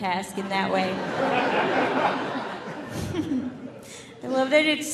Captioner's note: audience laughing